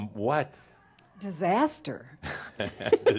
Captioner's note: they chuckle